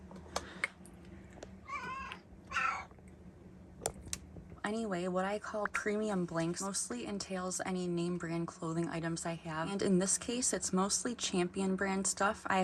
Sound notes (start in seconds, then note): 1.6 meowing continues